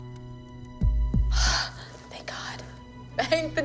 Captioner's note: sighs